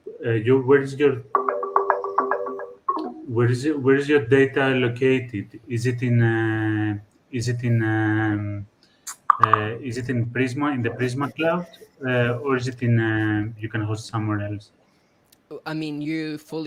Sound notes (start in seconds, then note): 1.1 loud computer haptics; 9.1 loud computer haptics